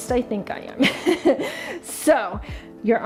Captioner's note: laughing